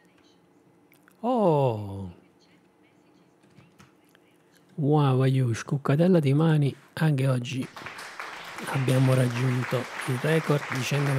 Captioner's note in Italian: Applauso